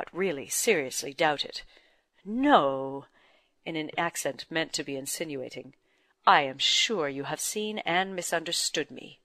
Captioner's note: in an accent meant to be insinuating